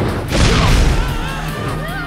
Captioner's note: loud crash